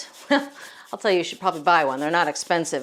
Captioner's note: chuckles